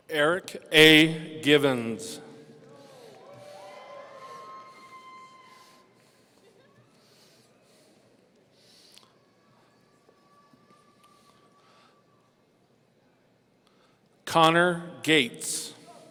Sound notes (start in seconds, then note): 2.8 audience cheering